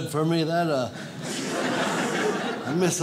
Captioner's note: audience laughs